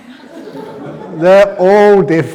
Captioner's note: laughter